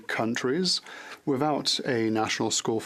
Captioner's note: speaking French